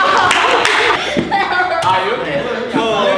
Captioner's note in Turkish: Gülüşmeler